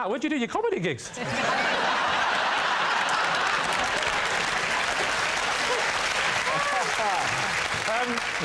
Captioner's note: laughter and applause